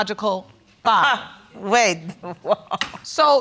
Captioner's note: scoffs; laughs